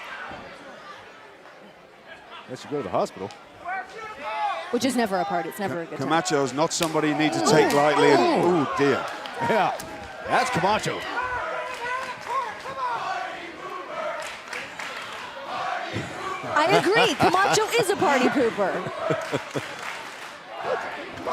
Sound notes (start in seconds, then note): 13.5 fans chanting; 18.7 laughter